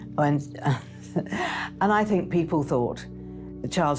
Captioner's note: chuckles